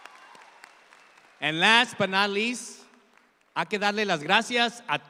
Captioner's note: speaking in Spanish